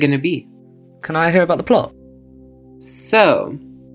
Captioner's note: voiceover